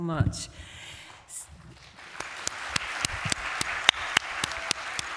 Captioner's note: applause